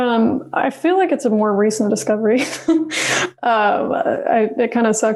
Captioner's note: laughs